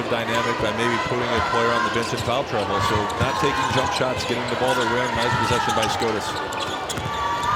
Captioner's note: crowd cheering